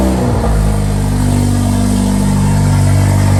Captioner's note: car revving